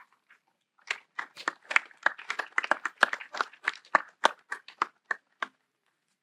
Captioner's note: applause